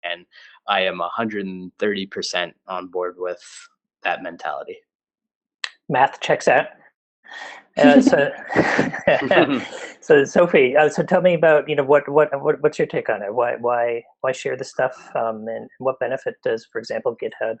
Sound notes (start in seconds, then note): 7.8 laughter